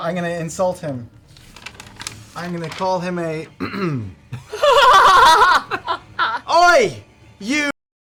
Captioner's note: clears throat